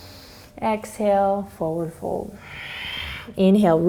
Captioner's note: inhales; exhales